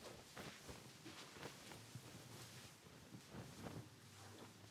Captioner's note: blanket rustling